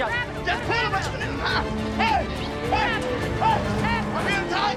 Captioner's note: shouting